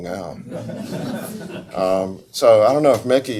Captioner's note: audience laughs